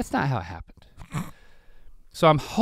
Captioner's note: Rhett sputters